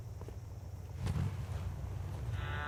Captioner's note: Warthog Engine Fires Up